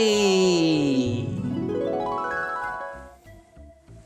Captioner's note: magical twinkling sound